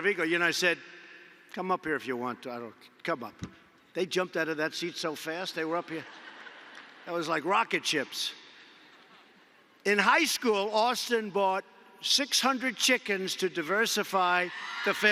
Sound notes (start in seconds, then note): 5.8 laughter